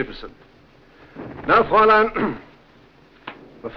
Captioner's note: clears throat